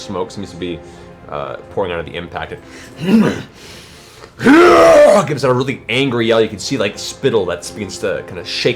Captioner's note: snarls and yells